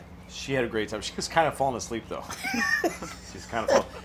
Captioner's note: laughing